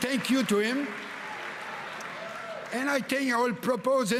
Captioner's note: cheering and Applause